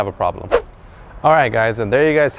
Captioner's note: whoosh